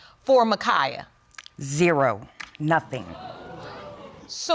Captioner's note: audience exclaims